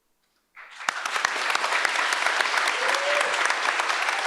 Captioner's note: audience applauds